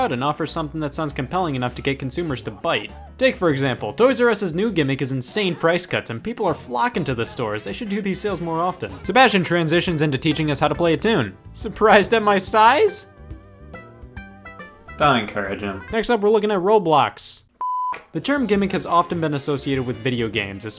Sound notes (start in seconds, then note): 17.6 beep